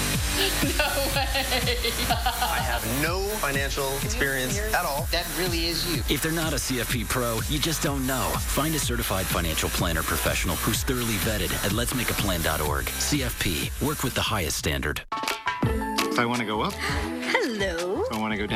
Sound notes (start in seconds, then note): 0.4 laughs; 0.4 dance music plays